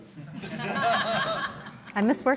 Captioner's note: laughter